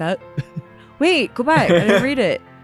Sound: laughs

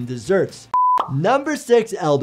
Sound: video beeping

